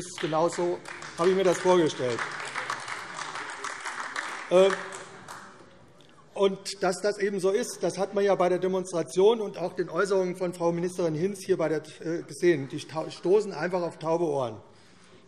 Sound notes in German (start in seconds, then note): 3.9 Beifall AfD